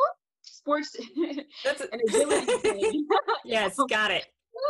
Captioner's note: laughs